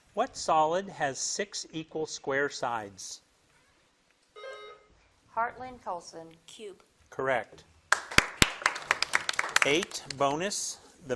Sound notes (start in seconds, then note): 4.4 buzzer dings; 7.9 crowd claps